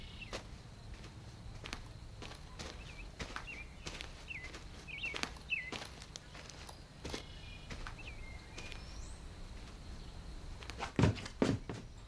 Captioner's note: birds chirping